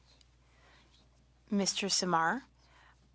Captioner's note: speaking French